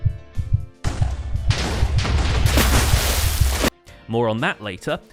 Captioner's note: several tnt explosions, water splashing